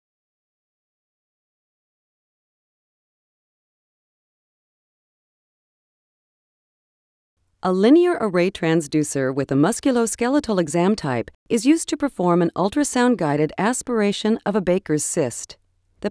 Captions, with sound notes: - [Voiceover] A linear array transducer with a musculoskeletal exam type is used to perform an ultrasound guided aspiration of a Baker's cyst.